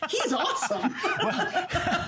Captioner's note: laughter